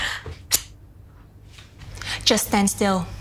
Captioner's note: scissor snips